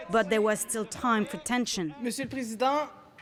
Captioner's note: speaking French